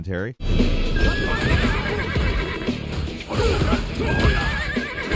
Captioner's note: animals squeal, fighters smash